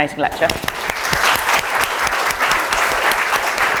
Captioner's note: audience applause